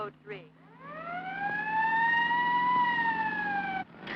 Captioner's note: sirens blaring